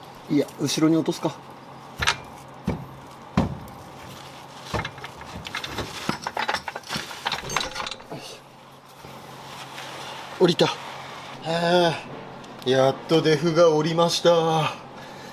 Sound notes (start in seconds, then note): 2.0 working sound